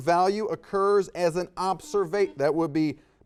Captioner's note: buzzer dings